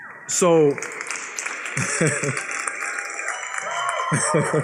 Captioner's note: applause